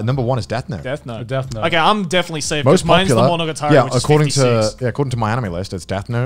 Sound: none

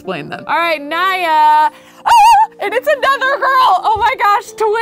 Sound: screams happily

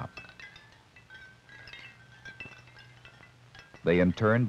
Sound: light wind chime tinkle

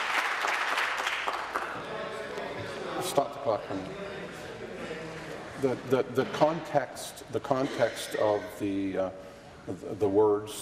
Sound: applause

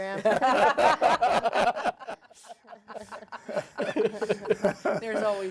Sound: group laughing

